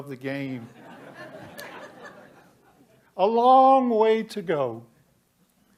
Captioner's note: laughter